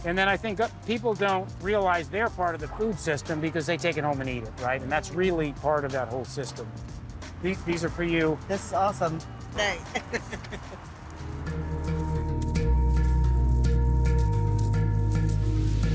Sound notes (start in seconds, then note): 9.8 chuckling; 11.7 tranquil background melody droning